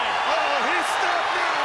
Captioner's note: audience cheers